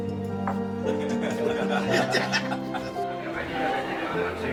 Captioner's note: laughter